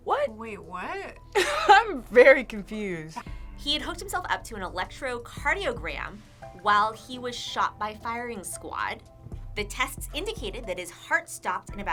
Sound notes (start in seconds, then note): 1.6 laughs